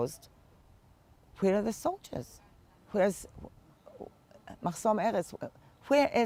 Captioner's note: hebrew